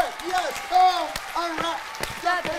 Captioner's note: crowd cheers